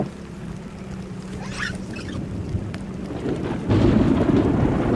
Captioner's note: very loud clap of thunder